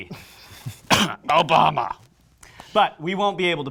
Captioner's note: coughs